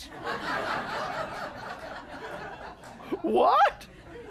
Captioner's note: laughter